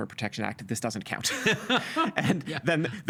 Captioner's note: laughing